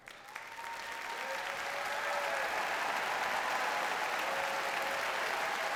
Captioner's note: audience cheers and applauds